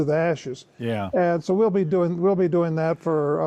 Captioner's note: pat